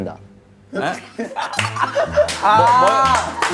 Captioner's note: burst out in laughter